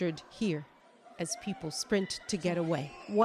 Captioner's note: screams